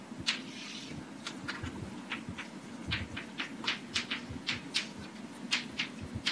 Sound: chalk writing on chalkboard

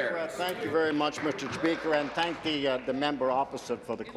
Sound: applause

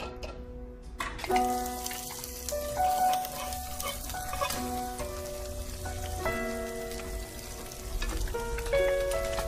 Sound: onions sizzling

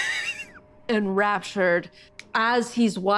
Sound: Jasmine Laughs

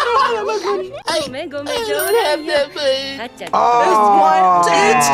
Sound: laughs; bell dings

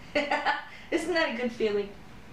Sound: laughter

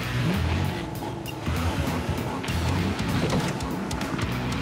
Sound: engines rumble; cars clank

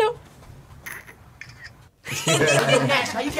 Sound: laughs; camera shutter clicks; both laugh

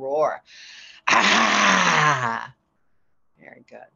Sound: roar

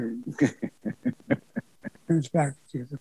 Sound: laughs

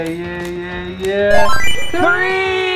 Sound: chimes

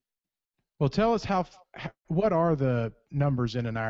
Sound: voiceover

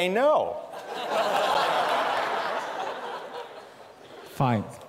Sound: laughter

